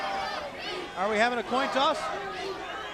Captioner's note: crowd chatter